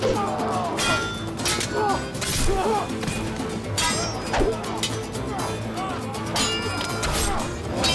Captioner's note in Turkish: Dövüş sesleri